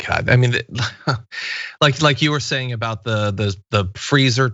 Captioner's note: laugh